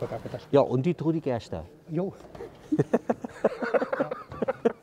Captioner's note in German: lacht